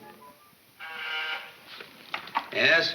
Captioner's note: intercom buzzes